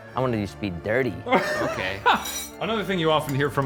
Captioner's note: laughing